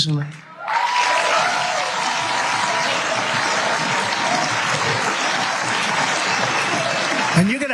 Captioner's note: applause